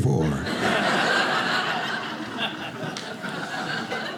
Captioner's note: audience laughing